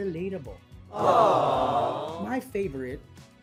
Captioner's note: people fawning sfx